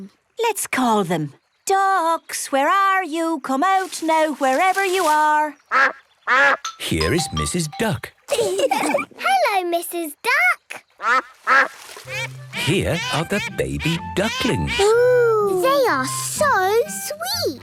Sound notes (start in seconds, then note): 6.2 quacks; 8.3 all laugh; 11.0 quacks